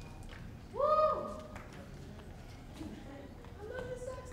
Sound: man cheering

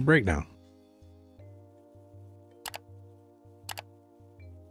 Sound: keyboard clicking

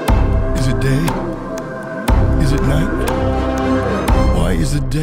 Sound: pleading

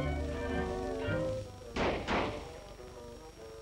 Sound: gunshots

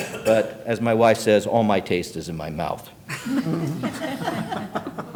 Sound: laughter

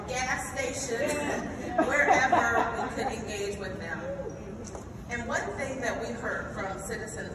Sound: laugh

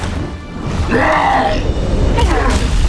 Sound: roars; groans

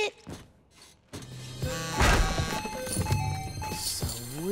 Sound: buzzing, chiming

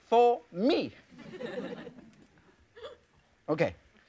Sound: audience laughs

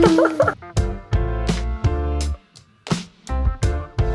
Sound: laughing

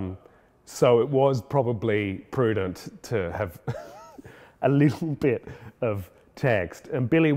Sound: laughs

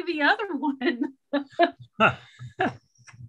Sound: chuckles

